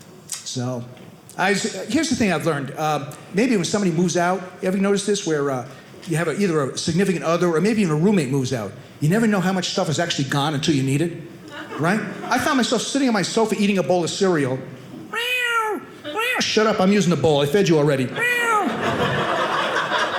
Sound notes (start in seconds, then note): 15.1 meowing like a cat; 18.2 meowing like a cat; 19.9 audience laughing